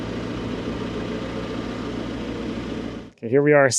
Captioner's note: engine humming continues